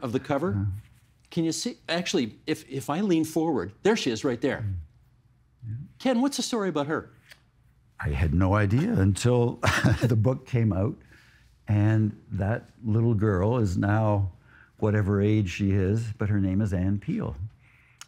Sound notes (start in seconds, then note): 9.6 chuckling